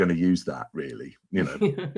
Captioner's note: laugh